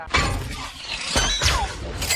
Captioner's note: metal clanging